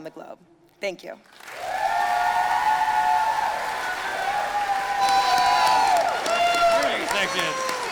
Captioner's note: audience applauding